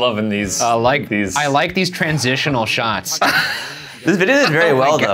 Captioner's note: laughing